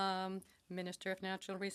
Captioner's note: speaking French